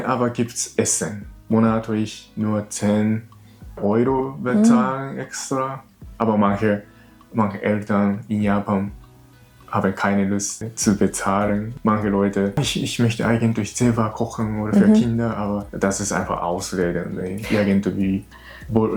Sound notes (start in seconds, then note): 11.3 laughs